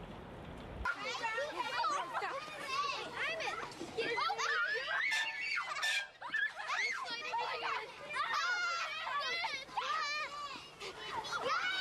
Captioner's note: kids playing